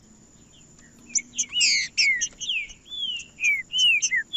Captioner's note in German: trinca ferro cantando